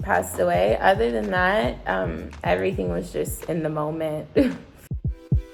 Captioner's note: laughs; upbeat music